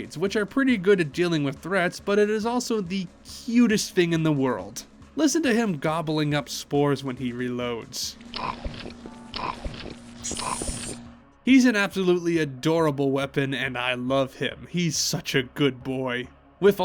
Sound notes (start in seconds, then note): 8.3 gobbling noises